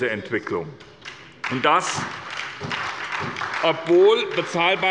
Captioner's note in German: Beifall bei der SPD